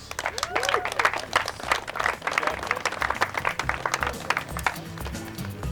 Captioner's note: clapping